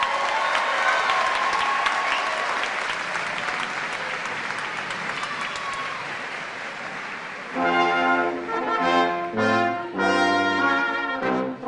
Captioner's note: cheers and applause